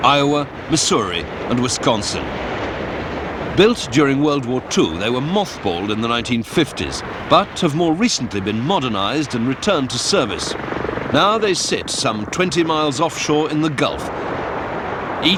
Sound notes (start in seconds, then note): none